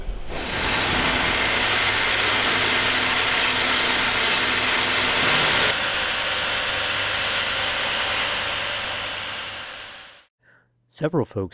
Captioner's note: machine noise